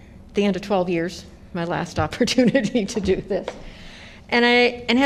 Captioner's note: laughter